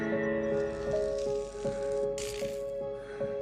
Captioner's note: electric zapping